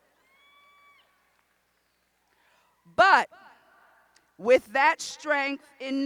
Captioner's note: cheers